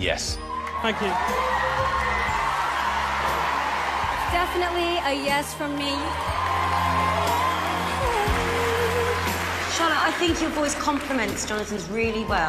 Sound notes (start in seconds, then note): 1.0 crowd cheering; 5.8 crowd cheering